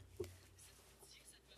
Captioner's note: speaking French